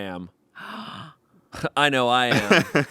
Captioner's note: gasps; laughs